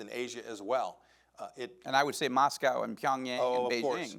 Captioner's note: murmurs